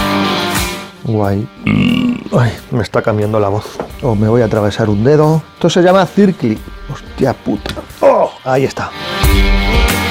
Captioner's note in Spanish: eructo